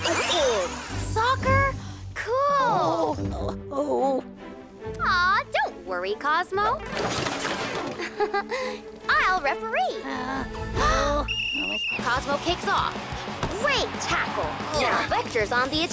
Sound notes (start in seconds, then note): 2.2 Cozmo moaning; 7.9 laughs; 11.2 whistle blowing